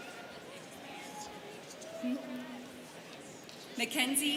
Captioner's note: students chattering